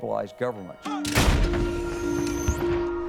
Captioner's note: weapon fires